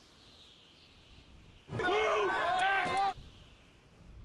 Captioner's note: people shouting